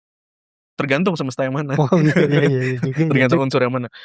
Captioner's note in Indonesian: tertawa